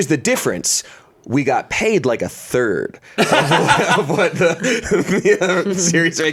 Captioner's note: laughs